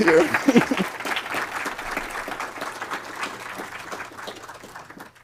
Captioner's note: applause